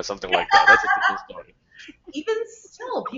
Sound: laughing

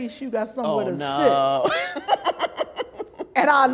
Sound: laughs loudly

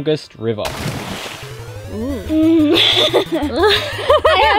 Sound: splash; laughs

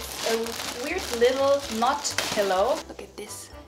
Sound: plastic crackling

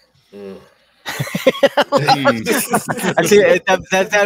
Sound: laughs

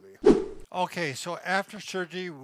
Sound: air swooshing

